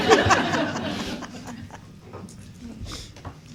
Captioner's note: laughing